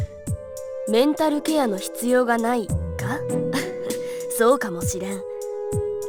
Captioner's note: chuckle